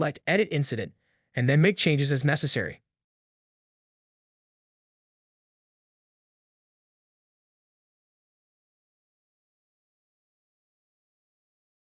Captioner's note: silence